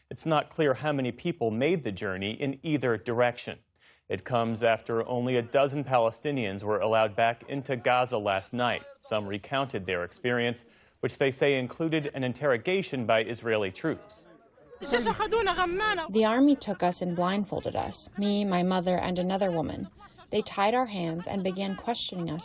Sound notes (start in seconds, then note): 16.5 through translator